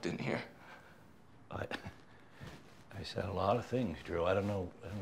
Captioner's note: chuckles